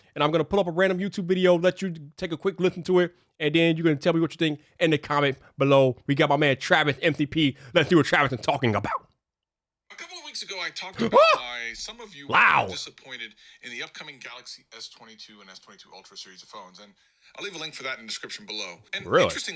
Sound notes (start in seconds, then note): 11.3 exclaims